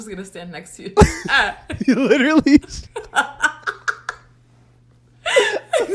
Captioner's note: both laugh